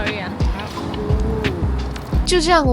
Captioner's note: squawking